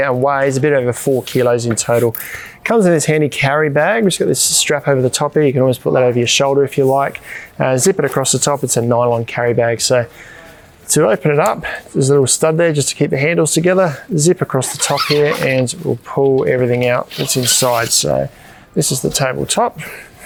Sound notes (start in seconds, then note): 14.6 zip rasping